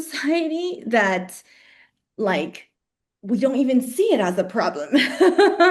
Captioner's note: laughs